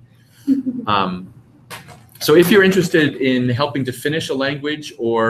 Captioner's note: laugh